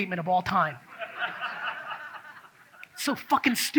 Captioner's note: audience laughs